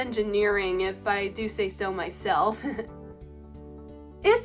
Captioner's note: laughs